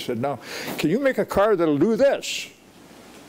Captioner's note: none